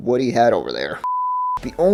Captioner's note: beep